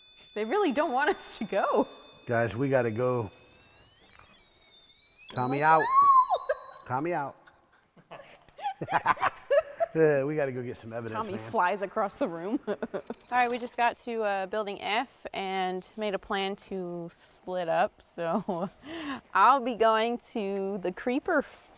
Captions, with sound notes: They really don't want us to go. - Guys, we got to go. - [REM pod beeping] - Tommy out. - No! Tommy out. [REM pod stops] [laughing] We got to go get some evidence man. Tommy flies across the room. All right. We just got to, building F and made a plan to split up. So I'll be going to the creeper